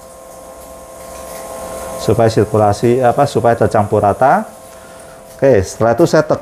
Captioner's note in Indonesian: suara mesin printer